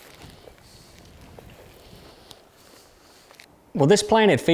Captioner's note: hunter panting